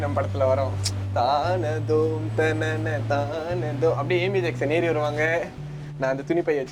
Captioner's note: hums “ ” tune